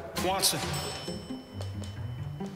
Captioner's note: elevator pings